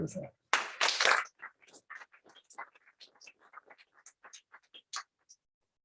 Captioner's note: applause